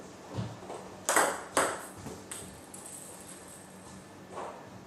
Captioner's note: balls ping pong hitting continues